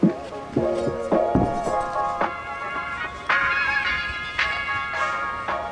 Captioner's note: metal ruler rattles